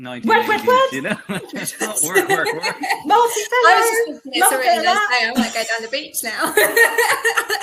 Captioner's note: laughter,?unintelligible